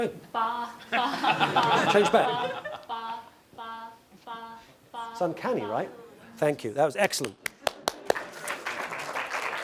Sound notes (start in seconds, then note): 0.7 laugh; 7.3 applause